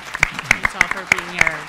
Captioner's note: audience applauding